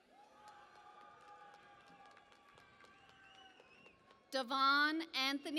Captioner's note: cheering and Applause